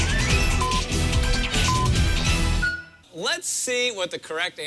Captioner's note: electronic beeping